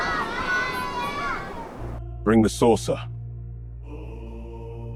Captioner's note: children crying